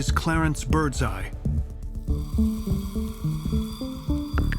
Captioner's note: fish sizzling